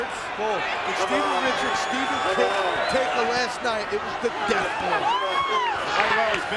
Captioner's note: presenter speaking faintly off mic